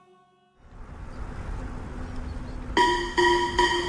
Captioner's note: birds chirping